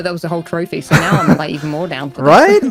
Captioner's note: laughs